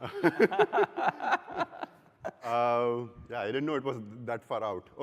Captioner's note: laughter